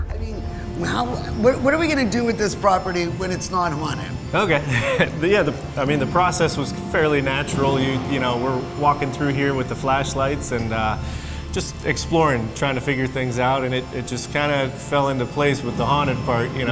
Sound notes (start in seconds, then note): 4.2 laughing